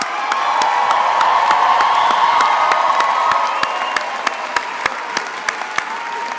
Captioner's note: attendees applauding and cheering